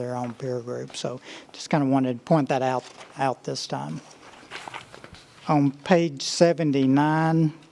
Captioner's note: sound of pages turning